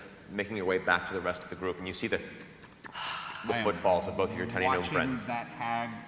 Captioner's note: squish